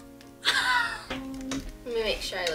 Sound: laughs

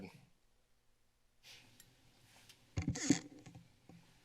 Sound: silence

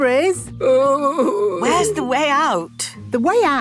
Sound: groaning

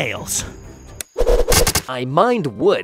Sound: arrows clicking

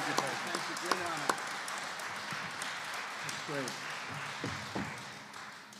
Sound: applause

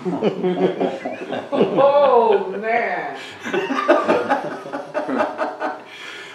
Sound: nervious Laughter

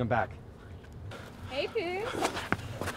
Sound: heavy breathing; scrambling footsteps

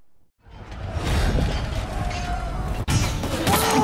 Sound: faint commotion; men yelling, arrows whistling, swords clanging

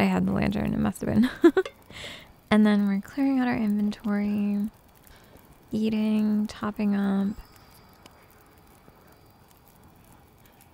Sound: giggles

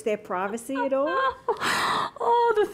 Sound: laughter

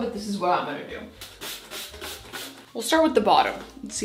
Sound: cleaner spraying

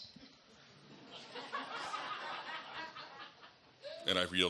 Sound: audience laughs

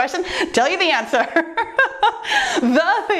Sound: laughs

